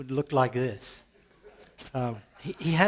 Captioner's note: laughter